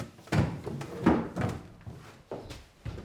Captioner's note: chair bangs